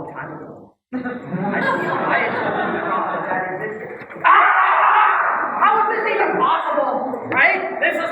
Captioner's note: laugh